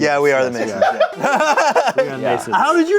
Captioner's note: laughing